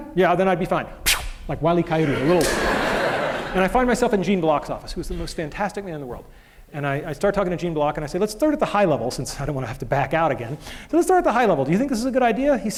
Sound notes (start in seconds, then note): 2.0 laughter